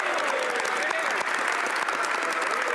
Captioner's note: speaking French